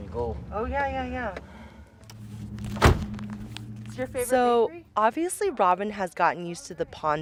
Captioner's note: soundbite of car door closing